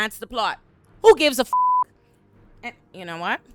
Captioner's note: beep